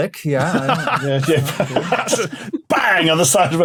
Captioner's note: laugh